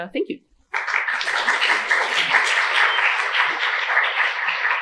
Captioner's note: applause